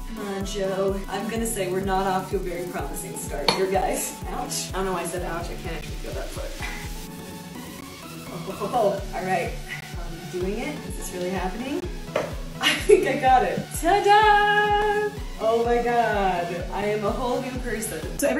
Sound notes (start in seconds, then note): 7.2 bright upbeat music; 12.6 laughing